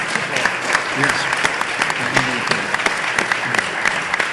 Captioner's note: audience applauding